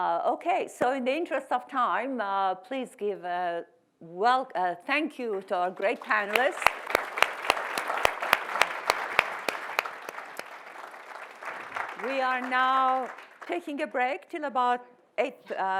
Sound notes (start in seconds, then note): 5.8 audience applauds